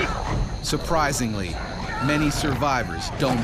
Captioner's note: voiceover